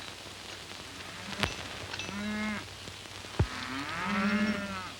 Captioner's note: cows mooing